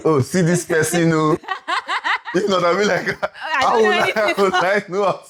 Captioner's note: laughs